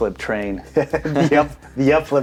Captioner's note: both men laugh